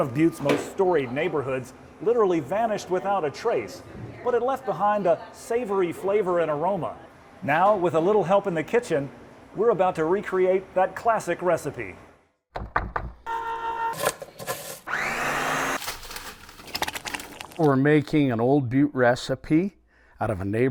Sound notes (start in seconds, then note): 13.0 knife thunking; 15.6 mixer whirring